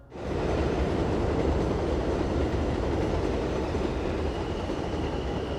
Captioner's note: train sounds